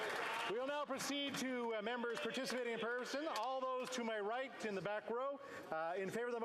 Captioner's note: applause